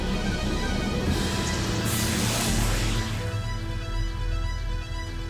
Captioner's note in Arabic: أصوات كهرباء; موسيقى إلكترونية متوترة